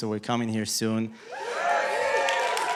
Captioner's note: cheering, applause